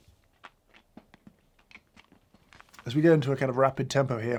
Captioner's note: candy crunching